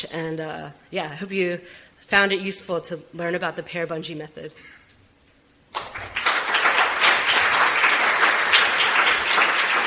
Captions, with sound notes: and I hope you found it useful to learn about the PAIR Bungee Method. (audience applauds)